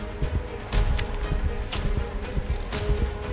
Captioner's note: cocks gun